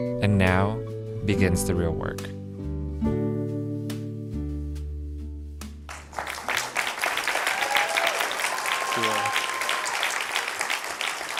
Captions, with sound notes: And now begins the real work. (clapping)